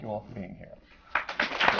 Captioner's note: applause